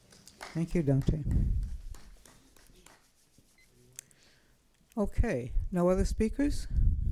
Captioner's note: applause